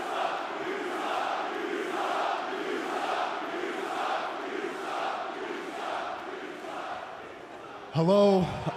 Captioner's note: fans chanting